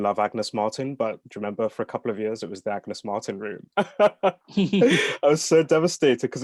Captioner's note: laughs